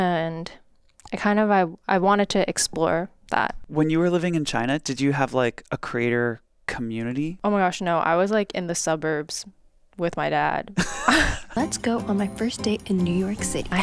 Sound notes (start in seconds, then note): 10.8 laugh